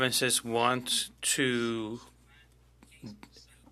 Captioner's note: speaking French